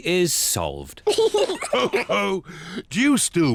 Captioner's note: all laugh